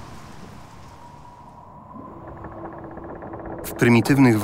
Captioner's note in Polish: Trzaskanie drewna, Szum wody